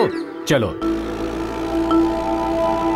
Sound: engine revving

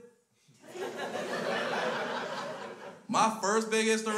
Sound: crowd laughs

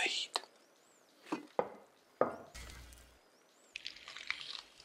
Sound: pan and plate clank

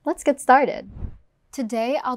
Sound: air whooshes

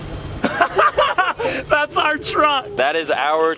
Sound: laughs

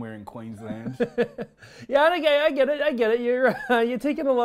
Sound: laughs

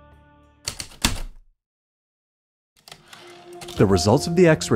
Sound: typewriter keystrokes, return slide

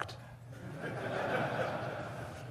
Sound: audience laughs

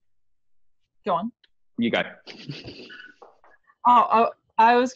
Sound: chuckles

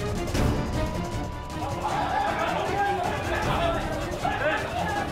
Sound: crowd clamouring

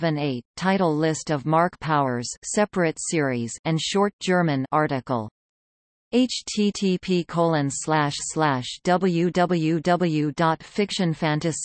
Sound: German

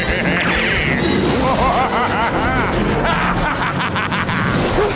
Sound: evil laughing

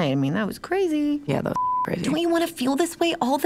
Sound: beeps

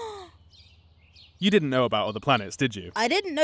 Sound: sighs

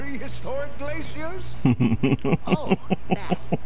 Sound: laughing

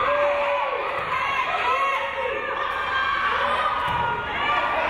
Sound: crowd cheering

